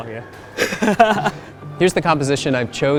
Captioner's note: laughing